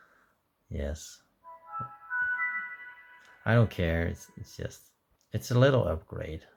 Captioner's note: Windows Vista Startup sound